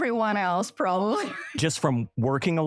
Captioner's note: laughter